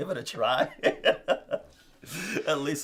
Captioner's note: laughing